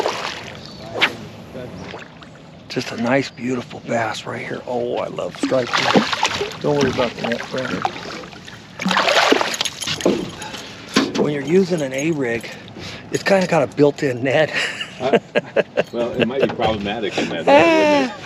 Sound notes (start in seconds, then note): 0.0 fish splashing; 5.4 fish splashing; 11.9 tackle rattling; 16.4 chuckling